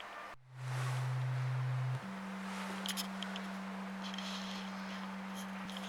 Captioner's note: tones with varying levels of pitch